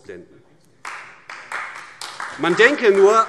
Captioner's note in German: Beifall AfD